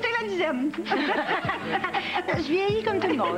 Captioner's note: Rires